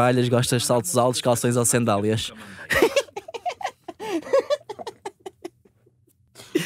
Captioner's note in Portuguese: risos